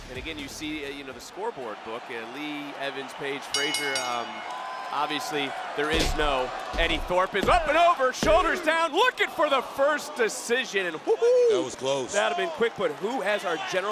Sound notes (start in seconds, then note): 0.0 dramatic music continues; 3.5 bell rings; 10.2 crowd cheers